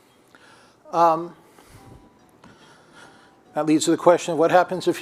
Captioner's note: phone rings